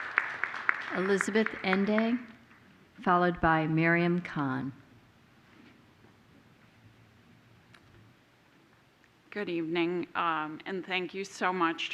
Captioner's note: applause